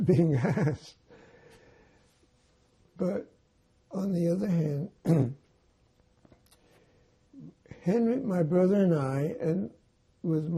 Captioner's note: laughing